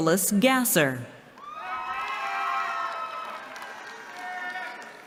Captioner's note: cheering